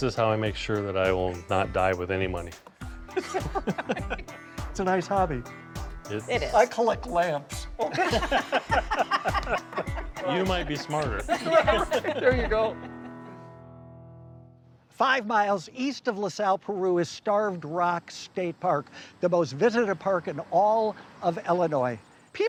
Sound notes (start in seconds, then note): 3.1 both laughing; 7.8 all laughing